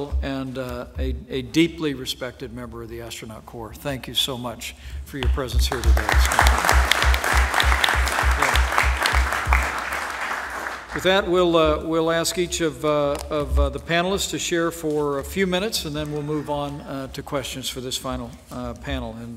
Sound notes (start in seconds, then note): 5.6 applause